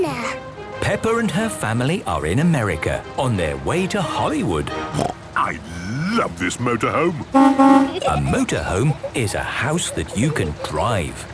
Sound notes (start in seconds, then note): 7.2 honking